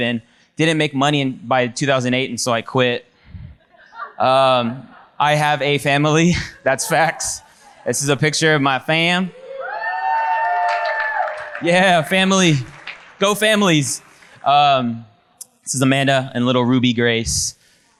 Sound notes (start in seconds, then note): 3.7 audience laughs; 9.3 audience cheers and applauds